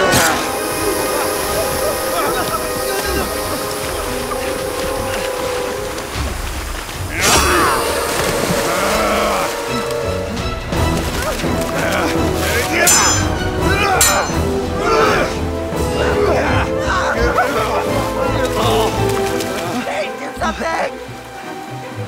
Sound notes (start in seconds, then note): 0.0 grunting; 0.2 hissing sound; 8.6 grunting; 8.6 growling; 12.7 metal clashing